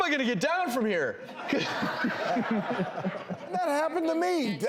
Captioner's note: laughing